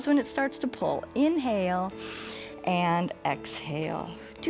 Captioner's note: inhales